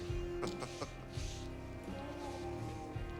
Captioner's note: laughing